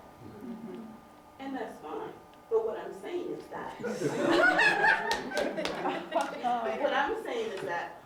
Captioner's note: laughter